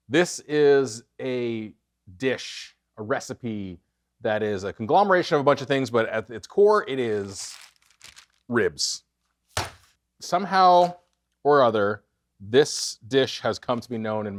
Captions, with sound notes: This is a dish, a recipe that is a conglomeration of a bunch of things, but at its core, it is ribs. (meat thuds) Somehow or other, this dish has come to be known